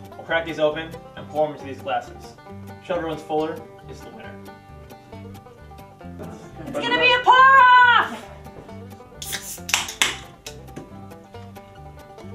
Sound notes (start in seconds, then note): 9.2 snaps